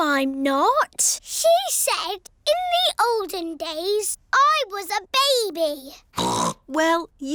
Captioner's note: snorts